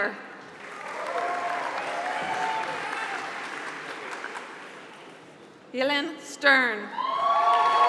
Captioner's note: applause; applause